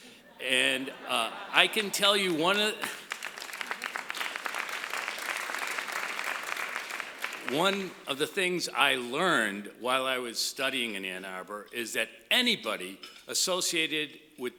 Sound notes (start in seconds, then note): 2.8 applause